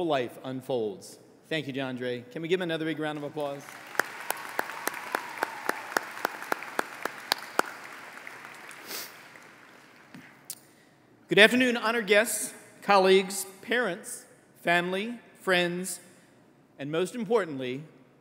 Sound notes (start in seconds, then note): 3.1 applause